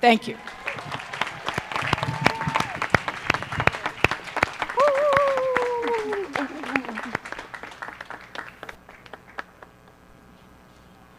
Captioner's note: applause